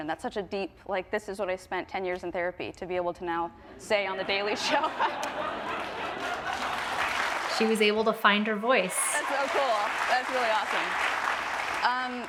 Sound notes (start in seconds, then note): 4.0 Audience and Jennette laugh; 5.1 audience clap